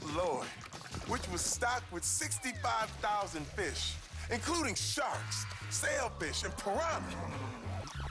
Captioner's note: burp